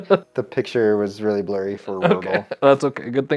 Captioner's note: laughs